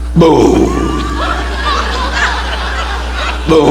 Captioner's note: audience laughing